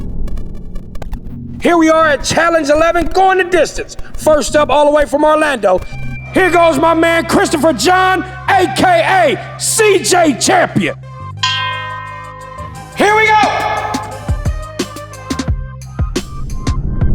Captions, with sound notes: Here we are at challenge 11, going the distance. First up, all the way from Orlando here goes my man, Christopher John, AKA CJ Champion! (bell ringing) Here we go! (tense music)